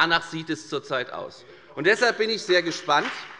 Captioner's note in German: Beifall bei der FDP